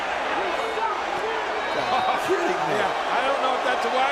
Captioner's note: crowd clambering